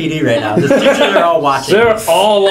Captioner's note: laugh